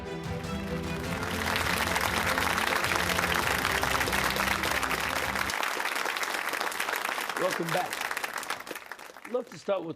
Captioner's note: applause